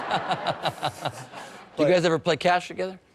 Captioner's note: laughing